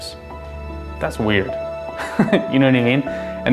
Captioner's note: laughs